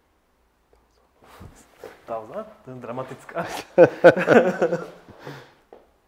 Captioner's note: laughs